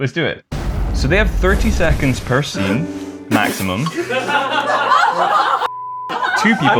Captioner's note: laughter